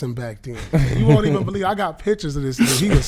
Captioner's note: laughing